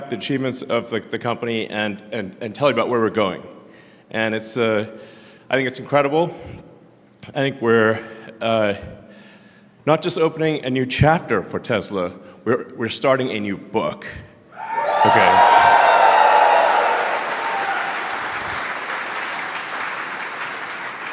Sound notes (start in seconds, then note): 14.9 Applause; 18.2 掌声